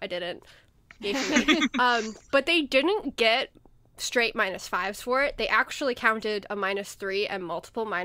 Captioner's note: hosts laugh